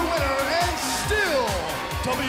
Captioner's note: bell ringing; crowd cheering